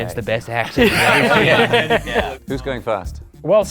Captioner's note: laughing